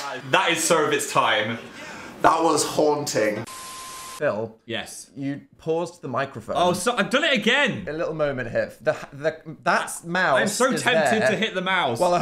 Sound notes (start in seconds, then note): 0.0 Dan clapping; 3.4 screen beeping